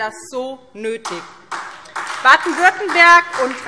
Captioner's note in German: Beifall SPD